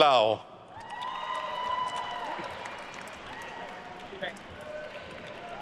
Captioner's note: attendees cheering and applauding